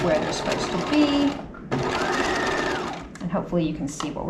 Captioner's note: sewing machine whirling